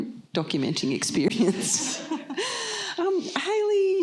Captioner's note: laughter